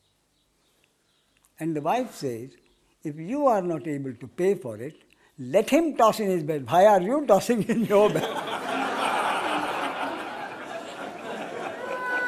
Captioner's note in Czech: smích